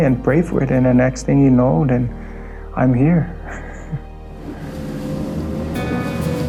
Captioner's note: laughs